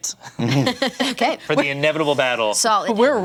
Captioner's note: laughter